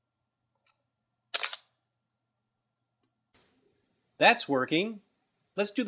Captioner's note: clicking sound